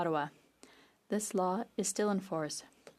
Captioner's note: speaking French